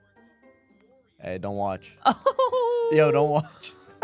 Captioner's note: instrumental music; laughs